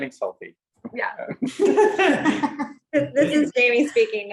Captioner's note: laughing